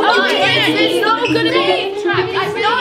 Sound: all Yelling

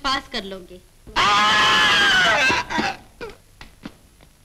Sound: yelling

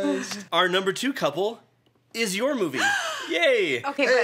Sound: gasps

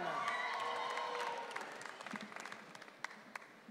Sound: audience cheering

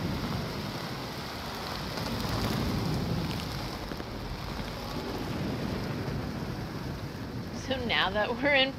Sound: heavy rain falling; rain falling

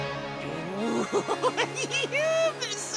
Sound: laughing

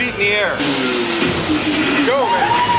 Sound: jet ski engine roaring

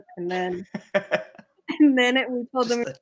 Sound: laughing

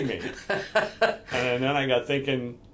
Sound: laughing

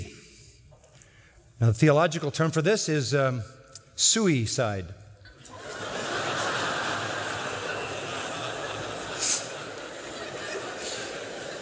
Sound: laughter

